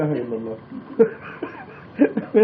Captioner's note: laughing